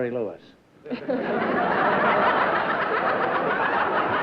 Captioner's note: laughter